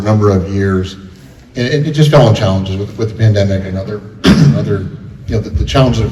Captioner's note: coughs